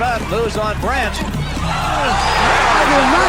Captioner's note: crowd roars